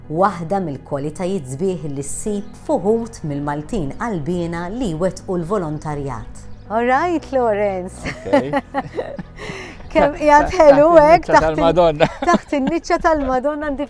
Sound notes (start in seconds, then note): 8.0 laughs